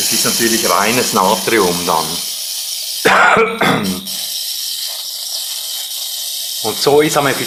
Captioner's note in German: hustet